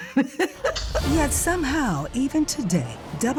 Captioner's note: chuckles